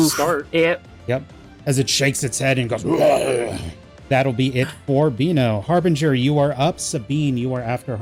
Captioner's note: raugh